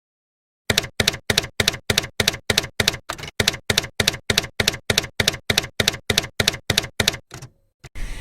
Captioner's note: typewriter keys clacking